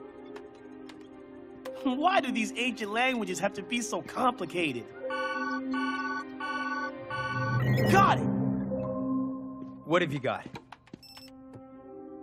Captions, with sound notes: Why do these ancient languages have to be so complicated? (Beeping) Got it! What have you got?